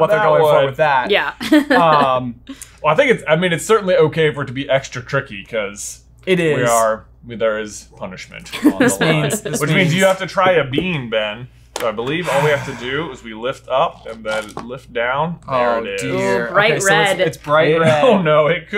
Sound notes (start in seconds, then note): 1.4 chuckles; 8.5 laughing; 12.2 sighing